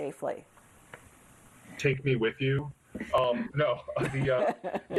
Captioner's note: laughs